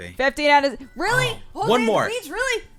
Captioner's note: cry